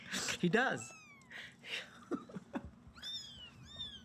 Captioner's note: laughs; kittens mewing